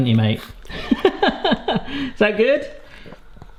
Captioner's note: laughs